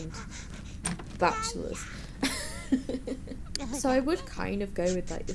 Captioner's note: laughs